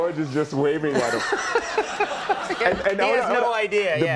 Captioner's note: crowd laughing